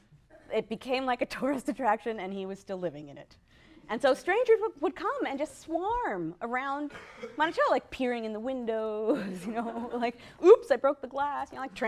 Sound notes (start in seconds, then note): 9.1 laughter